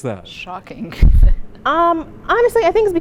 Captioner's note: laughter